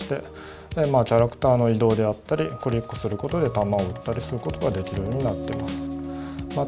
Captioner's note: mouse button click